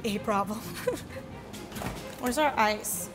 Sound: laughs

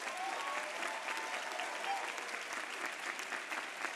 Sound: applause

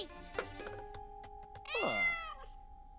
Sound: meowing

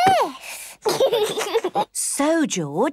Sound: giggles

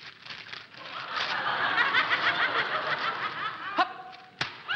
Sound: audience laughing

